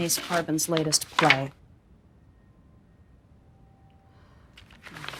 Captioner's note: files rustling